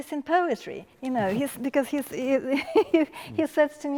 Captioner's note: laughs